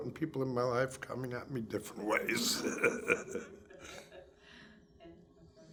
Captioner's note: laughs